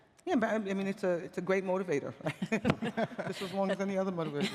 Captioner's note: laughter